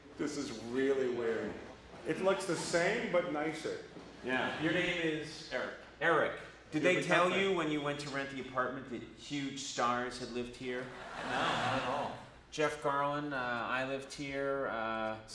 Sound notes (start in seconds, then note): 10.9 audience laughs